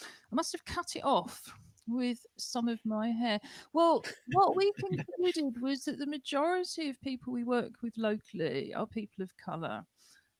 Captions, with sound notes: I must have cut it off with some of my hair. [laughter] What we did was that the majority of people we work with locally are people of colour,